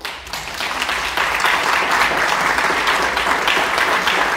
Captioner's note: audience clapping